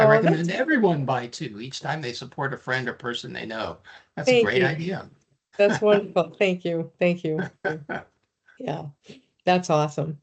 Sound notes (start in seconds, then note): 5.6 laughing